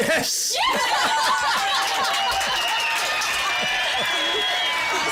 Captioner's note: cheers, laughter